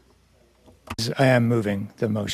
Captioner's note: speaking French